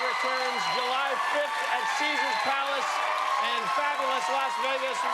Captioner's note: cheers and applause